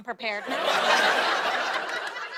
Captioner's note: laughter